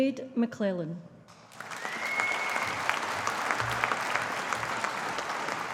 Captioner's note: audience applauding